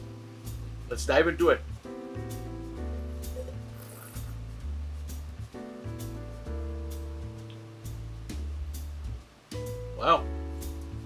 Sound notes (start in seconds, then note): 2.1 relaxed jazz music; 3.3 wine trilling; 5.8 relaxed jazz music; 10.8 relaxed jazz music